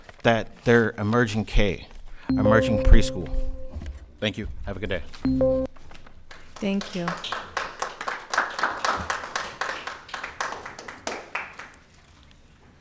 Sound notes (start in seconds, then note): 6.5 audience applauding